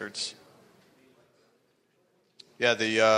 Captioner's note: speaking faintly